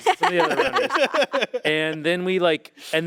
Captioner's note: group laughing